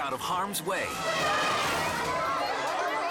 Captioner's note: attacking elephant trumpets